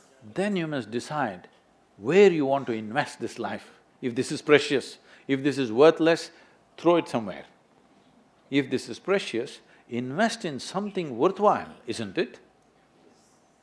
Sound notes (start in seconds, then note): none